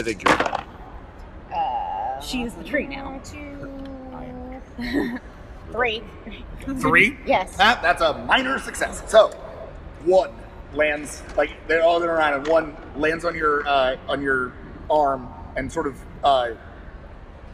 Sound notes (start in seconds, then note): 0.2 dice rattle